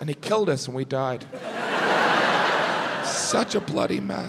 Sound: audience laughs

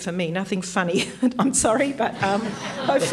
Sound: laughs

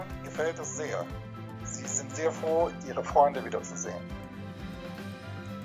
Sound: speaking German

